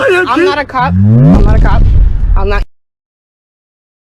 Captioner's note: vwooom